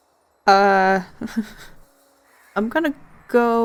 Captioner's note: small laugh